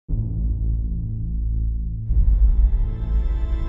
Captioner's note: low rumbling; tense music